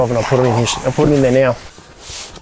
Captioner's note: fabric rustling